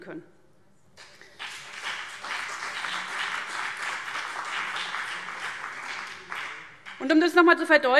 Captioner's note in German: Beifall CDU und BÜNDNIS 90/DIE GRÜNEN